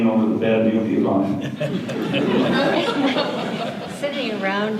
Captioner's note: audience laughter